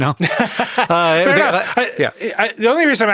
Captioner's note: laughs